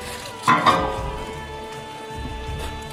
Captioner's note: clank, clank